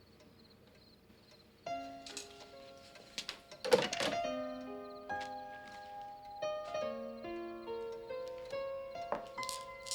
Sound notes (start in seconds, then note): 3.7 phone clicks; 5.4 calm romantic music